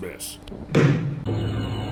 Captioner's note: gavel bangs